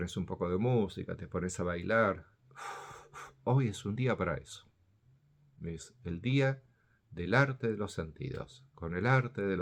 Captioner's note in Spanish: suspiro